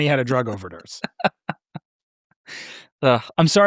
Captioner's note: laughing